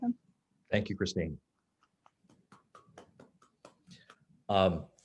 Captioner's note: clapping